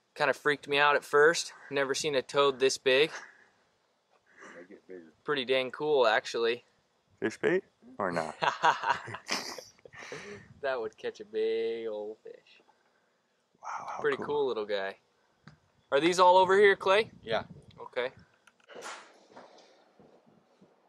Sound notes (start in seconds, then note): 8.1 laughs